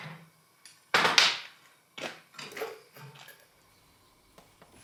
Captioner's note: pieces clattering